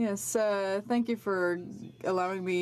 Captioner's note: speaking French